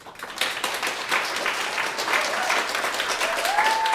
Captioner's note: applause